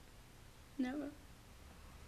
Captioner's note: none